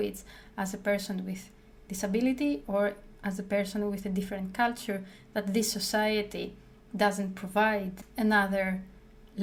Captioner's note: english-speaking